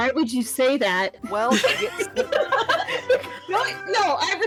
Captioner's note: everyone Laughing